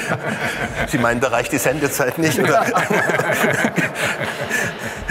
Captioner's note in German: Lachen; lachend